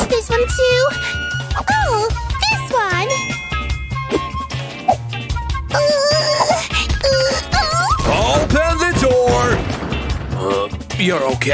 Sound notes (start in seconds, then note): 3.0 groans